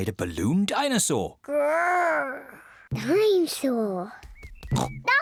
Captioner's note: growls; oinks